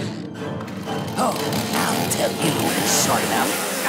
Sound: saw whirring

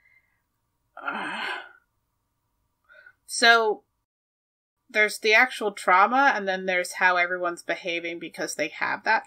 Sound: sighs

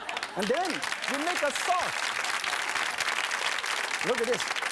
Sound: laughing; applause

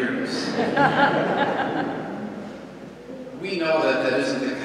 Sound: congregation laughs

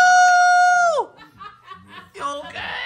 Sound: laughing

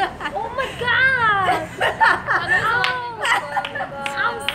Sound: laughing

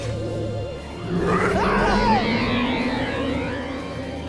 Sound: screaming

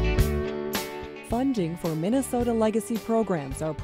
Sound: voiceover

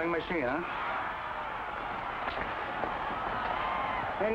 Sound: crowd cheers

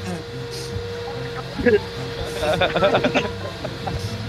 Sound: many Laughing

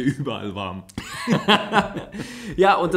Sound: laughs

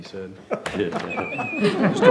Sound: laughter

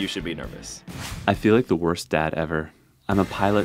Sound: voiceover

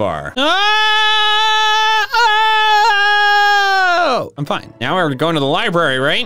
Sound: comedic screaming

